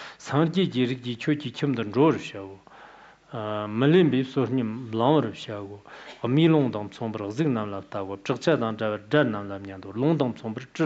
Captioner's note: giving oral transmission in Tibetan